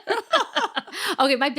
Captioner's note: both laughing